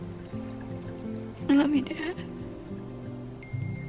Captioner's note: tearfully